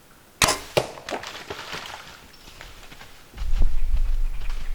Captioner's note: splashing